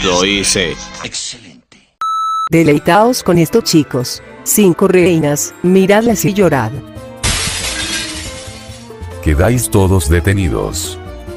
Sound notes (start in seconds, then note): 7.2 crashes through the window